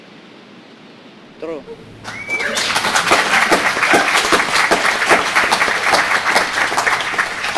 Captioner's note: speaks in foreign language; audience cheering